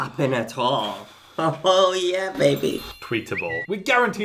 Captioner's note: laughs